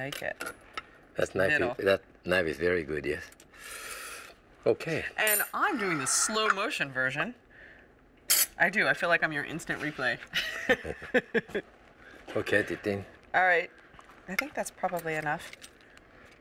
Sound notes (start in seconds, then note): 9.6 laughs